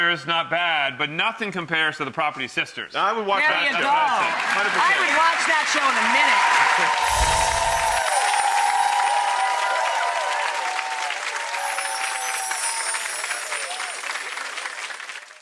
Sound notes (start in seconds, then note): 7.0 applause